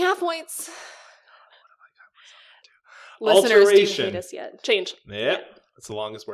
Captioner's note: whispers 'what have I gotten myself into'